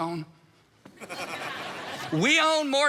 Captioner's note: congregation laughs